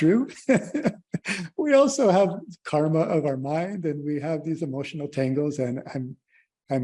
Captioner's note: laughter